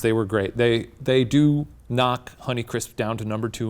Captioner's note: none